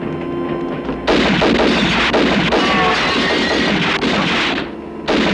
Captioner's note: glass shattering; guns firing